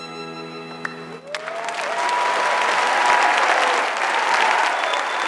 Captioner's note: audience applauding